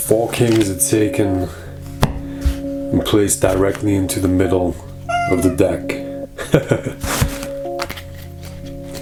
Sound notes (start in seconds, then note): 5.0 meow; 5.2 chuckles